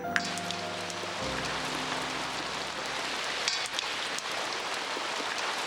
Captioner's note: loud splashing of rain